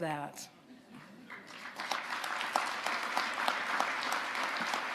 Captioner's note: audience applauding